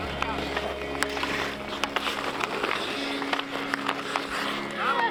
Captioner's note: ice skates grinding